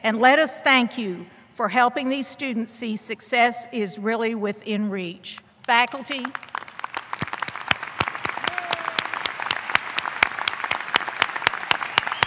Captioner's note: applause